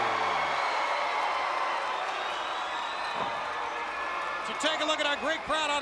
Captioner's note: crowd cheering